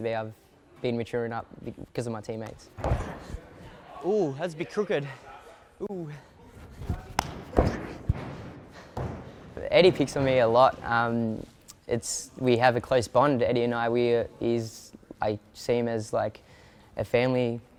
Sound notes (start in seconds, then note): 6.6 feet thuds